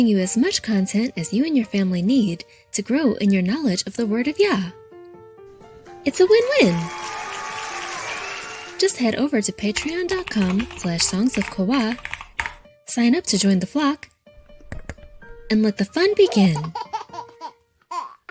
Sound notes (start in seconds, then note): 6.1 crowd cheering; 9.7 keys clicking; 14.7 mouse clicking; 16.0 baby laughing